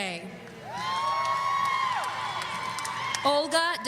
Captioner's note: audience cheering